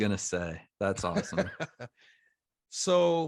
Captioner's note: laughs